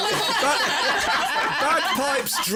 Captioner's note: laughter